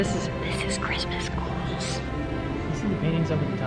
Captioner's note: whispers